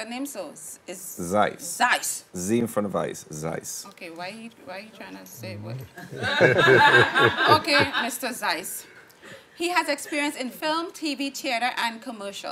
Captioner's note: laughing